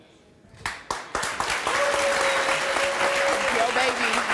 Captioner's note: cheering